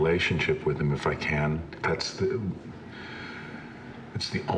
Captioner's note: sighs